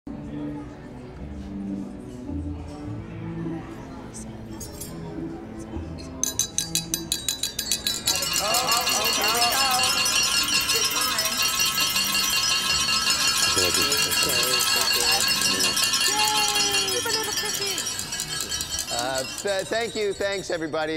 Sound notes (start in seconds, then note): 0.0 soft classical music; 6.2 glasses clinking; 9.6 glasses clinking; 11.7 glasses clinking; 17.9 glasses clinking